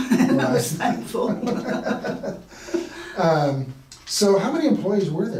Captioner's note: laughing